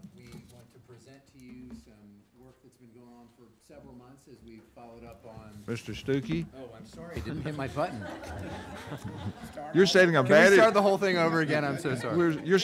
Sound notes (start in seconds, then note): 7.2 laughing